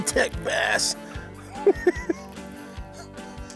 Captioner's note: laughs